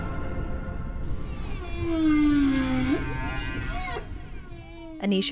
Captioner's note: whale calling